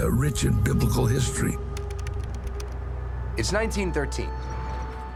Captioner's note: letters clacking